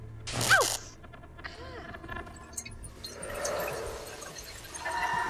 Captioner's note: static